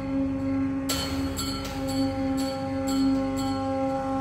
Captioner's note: bells ringing